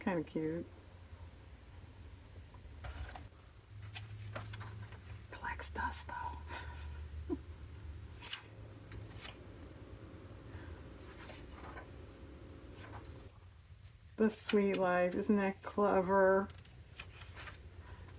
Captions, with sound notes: kind of cute (whispers) collects dust though "the suite life," isn't that clever?